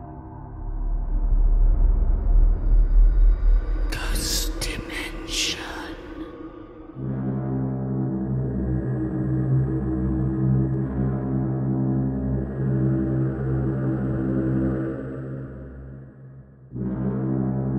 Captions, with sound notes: (dark atmospheric music) - [Ghostly Voice] Ghost Dimension. (dark atmospheric music)